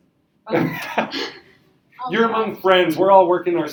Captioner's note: laughing